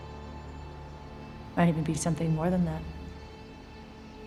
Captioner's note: none